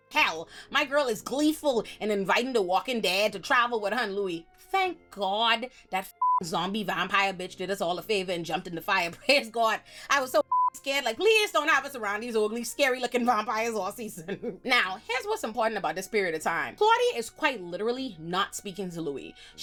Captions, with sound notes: hell, my girl is gleeful and inviting the walking dead to travel with her and Louie. Thank God that (beep) zombie vampire bitch did us all a favor and jumped in the fire, praise God. I was so scared, like, "Please don't have us around these ugly, scary looking vampires all season." Now, here's what's important about this period of time. Claudia is quite literally not speaking to Louie.